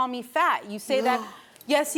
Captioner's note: gasps